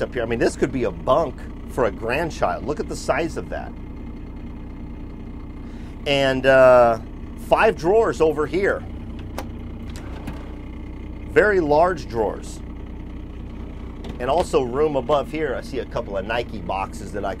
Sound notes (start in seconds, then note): 9.9 drawer opening; 12.9 drawer closing